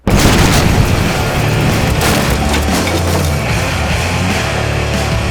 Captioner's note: large explosion